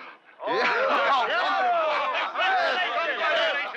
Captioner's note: all cheering